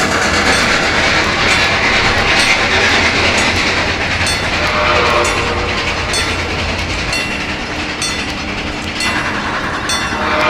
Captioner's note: chuffing picks up speed, C&O Greenbrier whistle; chuffing, locomotive bell ringing; C&O Greenbrier whistle